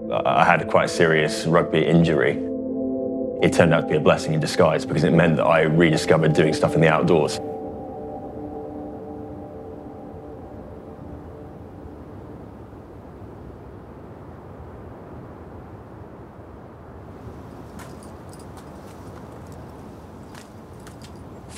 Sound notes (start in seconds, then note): 10.4 soft, muffled gentle breeze; 17.5 boots crunching on snow and rock